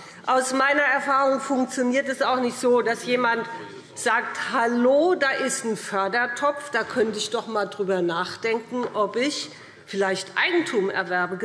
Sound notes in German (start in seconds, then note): none